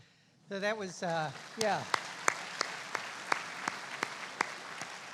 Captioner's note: applauding